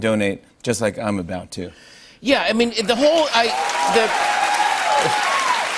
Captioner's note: cheers and applause